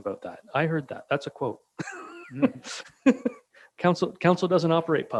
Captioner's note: chuckles